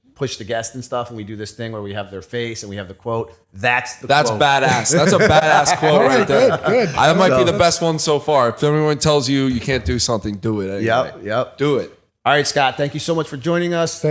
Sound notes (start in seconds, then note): 4.6 chuckle